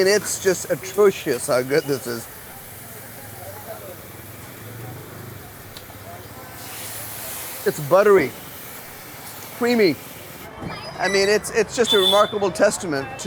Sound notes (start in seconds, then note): 3.6 water sizzling